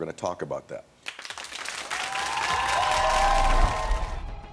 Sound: audience cheering and clapping

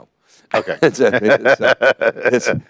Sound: laughs

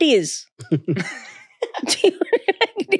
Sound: all laughing

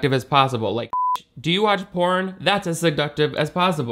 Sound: beep

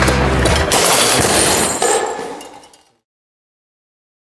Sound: loud crashing

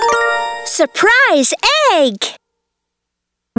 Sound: narrator reading

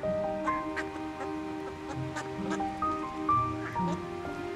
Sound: ducks quacking

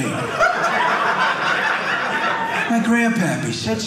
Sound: audience laughing

